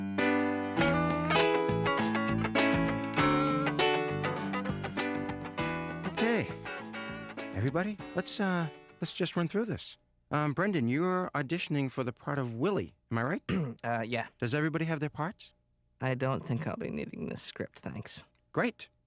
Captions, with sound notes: OKAY. EVERYBODY, LET'S, UH... LET'S JUST RUN THROUGH THIS. UM, BRENDON... YOU'RE AUDITIONING FOR THE PART OF WILLIE? (clears throat) : UH, YEAH. DOES EVERYBODY HAVE THEIR PARTS? I DON'T THINK I'LL BE NEEDING THIS SCRIPT, THANKS.